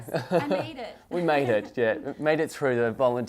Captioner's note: laughing